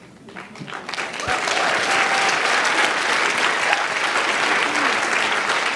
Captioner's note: applause